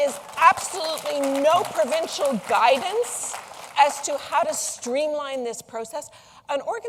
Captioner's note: applause